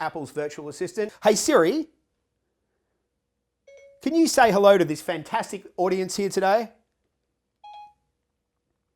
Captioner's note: ding Ding